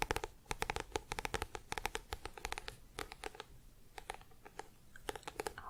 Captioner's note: tapping on book